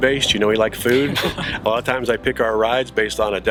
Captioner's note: both laugh